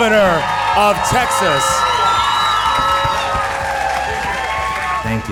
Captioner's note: audience cheering loudly